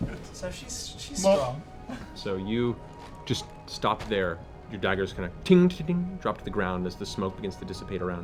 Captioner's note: clanking noise